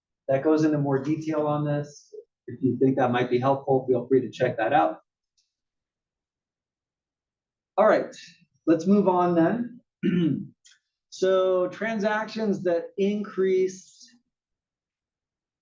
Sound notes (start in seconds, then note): 10.0 cough